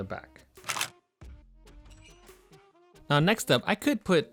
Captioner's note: camera clicks